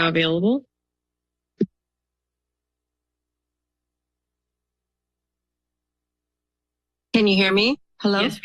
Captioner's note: silence